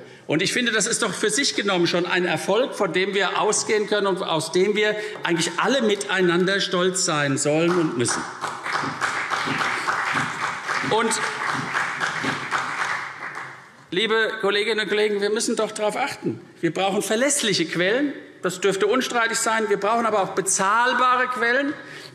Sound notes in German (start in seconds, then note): 7.6 Beifall CDU und BÜNDNIS 90/DIE GRÜNEN